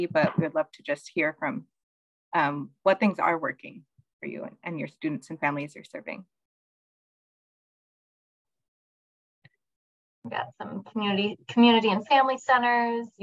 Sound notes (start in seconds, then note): 7.0 silence